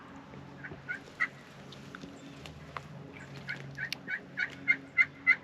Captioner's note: bird squawking begins